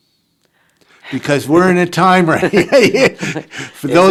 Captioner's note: chuckles